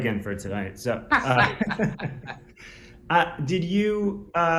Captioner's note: both laugh